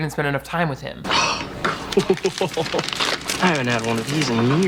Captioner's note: laughs